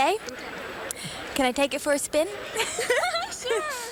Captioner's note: laughs